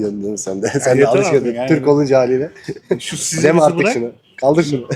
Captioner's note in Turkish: kahkaha